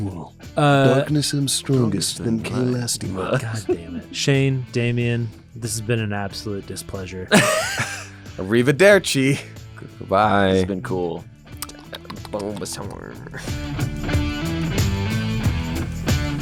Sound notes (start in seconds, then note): 7.3 laughter; 11.6 licking sounds; 13.8 rock music